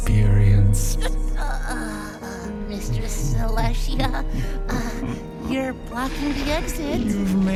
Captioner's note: Selashia chuckling in a menacing fashion